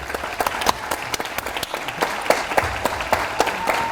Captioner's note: audience applauds